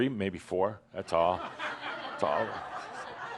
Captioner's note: laughter